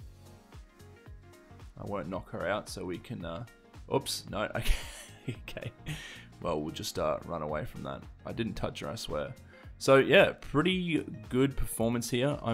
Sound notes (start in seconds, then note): 4.5 narrator chuckling